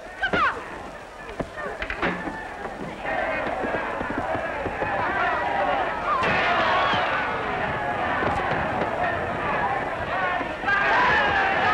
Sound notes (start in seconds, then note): 2.6 cheering; 5.2 shouting